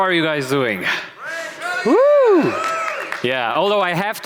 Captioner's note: cheering